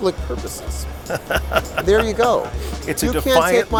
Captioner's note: laughter